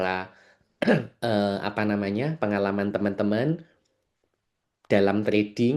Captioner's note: berdehem